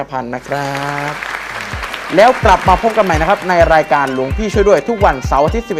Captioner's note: clapping